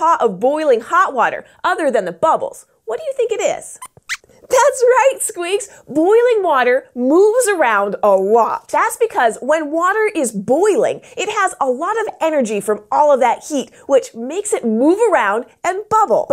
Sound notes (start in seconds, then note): 3.8 squeaks squeaks